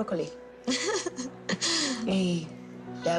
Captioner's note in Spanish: Risas